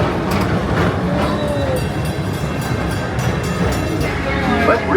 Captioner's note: train chugs; bell dings